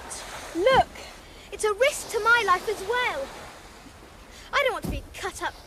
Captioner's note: stomping feet